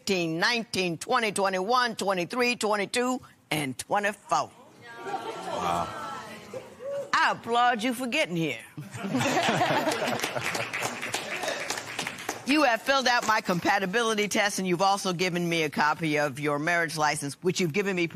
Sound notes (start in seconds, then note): 8.8 laughter; 9.7 applause